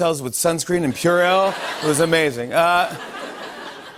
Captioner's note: light laughter